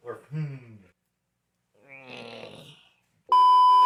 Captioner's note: secksee grunting noise